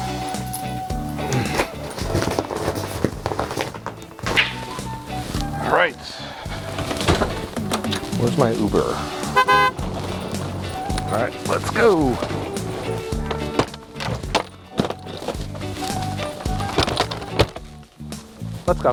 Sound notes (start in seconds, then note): 1.2 grr; 14.8 cars honking